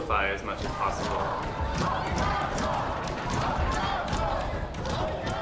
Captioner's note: door banging